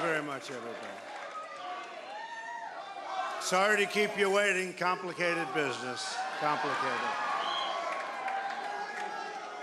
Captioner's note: chanting u.s.a